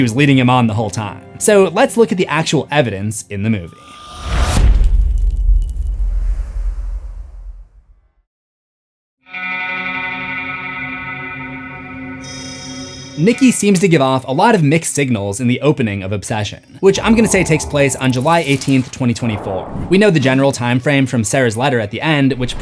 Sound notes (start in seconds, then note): 4.0 impact